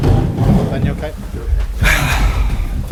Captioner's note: mic setup noises